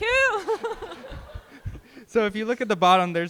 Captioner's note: group laughing